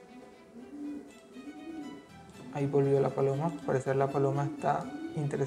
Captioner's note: dove noise